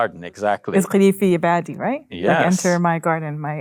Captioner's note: speaking in Arabic